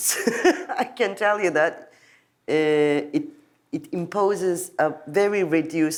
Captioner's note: laughs